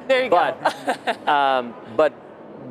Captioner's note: laughs